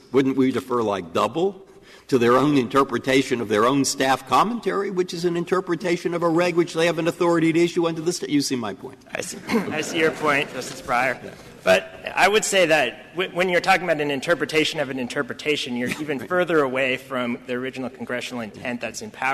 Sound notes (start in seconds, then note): 9.2 laughter